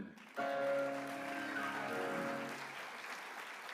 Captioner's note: applause